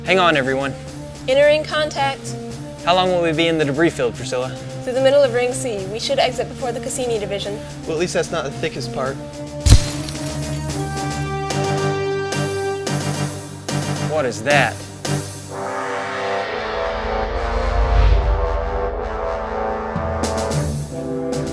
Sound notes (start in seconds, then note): 9.7 explosion; 11.7 instrumental music; 15.4 instrumental music